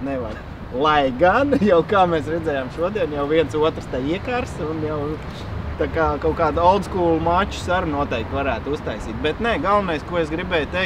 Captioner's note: laughing